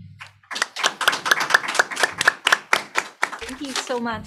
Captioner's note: applause